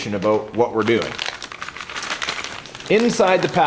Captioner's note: plastic rustling